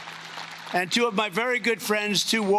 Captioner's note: cheering and Applause